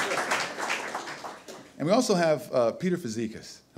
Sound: audience laughter and applause

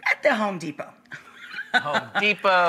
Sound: laughing

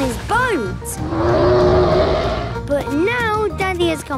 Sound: loud roar

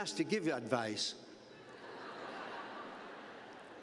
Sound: laughter

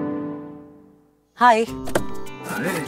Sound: car door opens

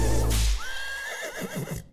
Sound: horse neighs

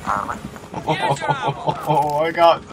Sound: laughs in relief

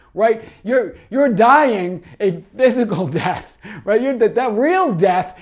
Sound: chuckles

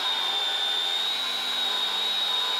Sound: machine whirrs

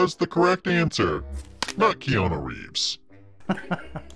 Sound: card smacking; laughing

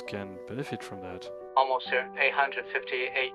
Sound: on the radio

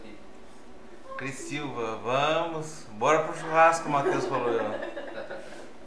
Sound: laughs

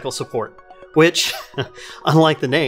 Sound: chuckles

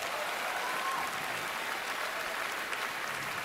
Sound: cheering, applause

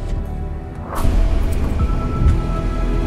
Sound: engine starts

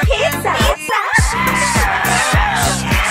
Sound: screaming in the backround

